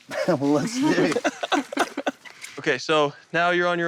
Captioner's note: laughter